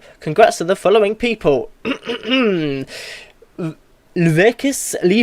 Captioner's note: clears throat